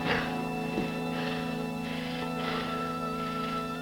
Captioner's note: heavy breathing